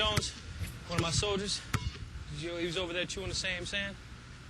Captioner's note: ball bouncing